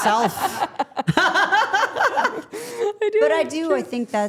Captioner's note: everyone laughing